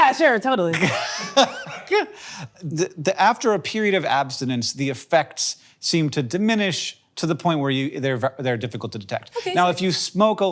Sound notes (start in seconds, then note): 0.8 Hank laughing